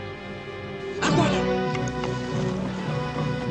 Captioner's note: speaking native language